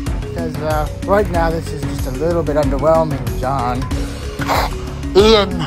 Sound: radio hisses

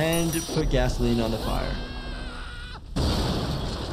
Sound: Disco Bear screaming; firetruck explodes

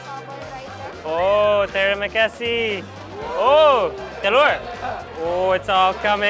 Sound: speaking in foreign language

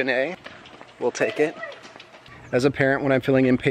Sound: girls chatter

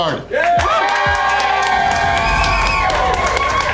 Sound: crowd cheering

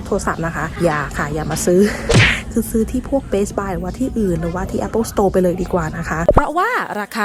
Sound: laughs

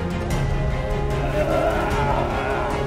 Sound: vomit sound

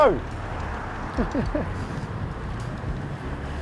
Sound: chuckles

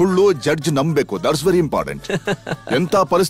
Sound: laughs

